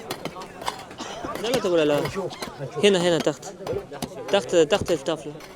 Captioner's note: Arabic spoken audio